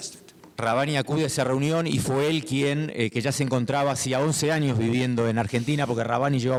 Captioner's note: speaking in foreign language